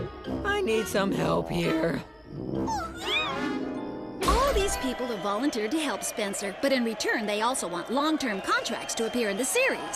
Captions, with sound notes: I need some help here. [oinking] All these people volunteered to help Spencer, but in return, they want long-term contracts to appear in the series.